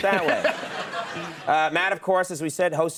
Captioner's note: audience laughs